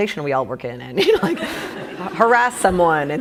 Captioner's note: laughing